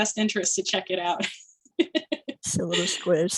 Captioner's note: laughter